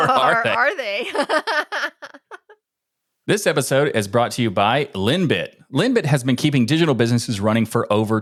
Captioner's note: laughing